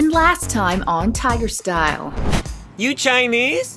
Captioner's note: flashback sound